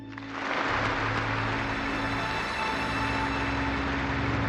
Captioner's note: audience applauds